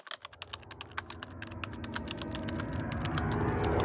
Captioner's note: typing